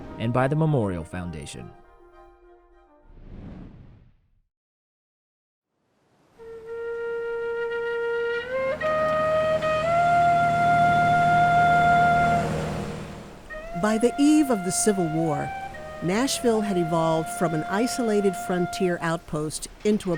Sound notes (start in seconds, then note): 3.1 air whooshing; 6.3 dramatic upbeat music